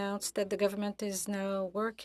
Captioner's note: speaking FRENCH